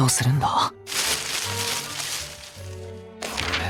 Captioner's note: rustling noises